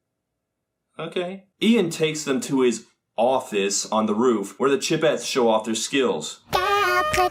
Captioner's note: sarcastic